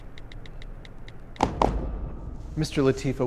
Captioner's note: phone clicking; Law & Order-esque transition sound